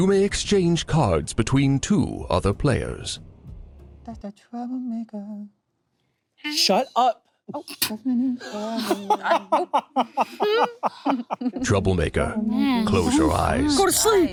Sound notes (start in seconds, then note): 8.4 laughing